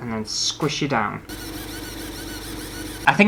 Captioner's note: buzzing Sounds